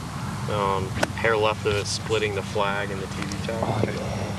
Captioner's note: chatter